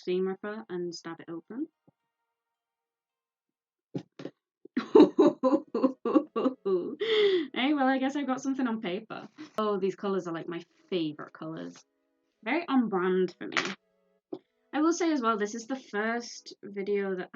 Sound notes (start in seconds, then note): 4.8 ooh hoo hoo noises again